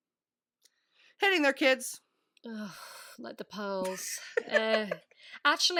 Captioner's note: laughing